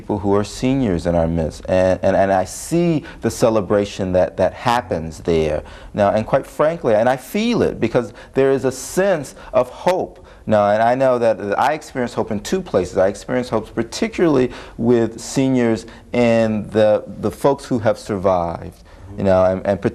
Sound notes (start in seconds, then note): none